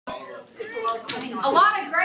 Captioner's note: background Conversation